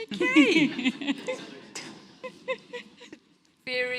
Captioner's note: audience laughs